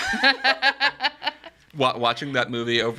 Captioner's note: all laughing